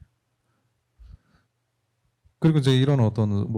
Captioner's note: speaking korean